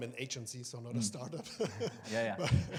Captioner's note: laughs